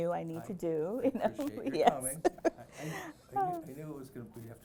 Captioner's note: laughs